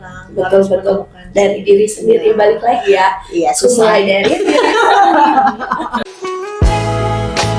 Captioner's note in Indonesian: tertawa